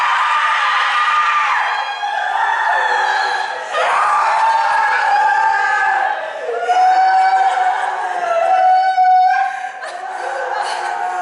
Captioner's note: CHORUS and ELECTRA cry out in lament